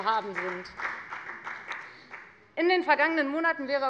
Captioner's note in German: Beifall bei der FDP